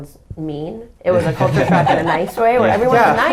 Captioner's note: everybody laughing